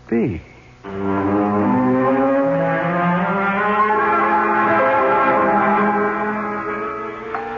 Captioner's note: sirens